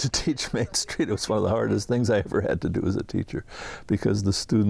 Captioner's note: laughing